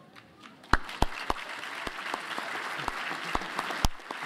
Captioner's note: applause